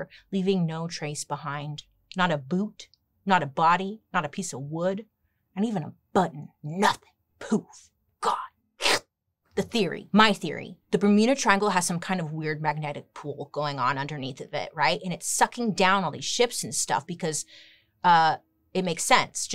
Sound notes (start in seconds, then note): 8.8 slurps